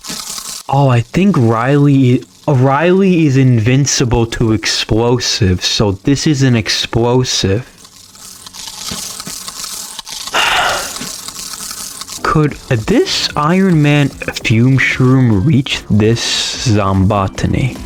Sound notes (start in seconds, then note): 10.3 exhales Oxygen